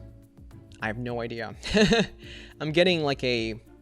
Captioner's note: laughs